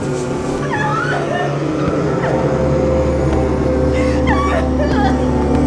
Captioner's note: screaming